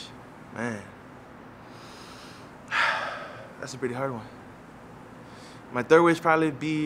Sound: sighing

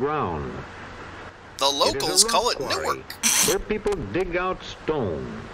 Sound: snort of laughter

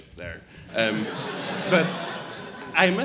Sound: audience laughs

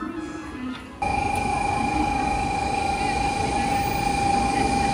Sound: train alarm beeping

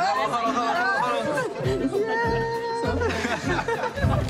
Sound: laughter

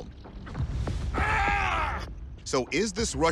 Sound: man grunts

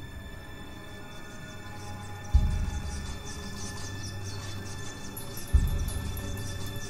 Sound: strange scratching sounds

